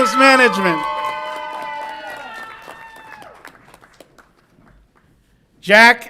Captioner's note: audience applauds and cheers